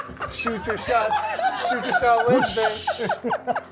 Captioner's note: indistinct chatter; laughter